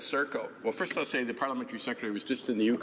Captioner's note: speaking in native tongue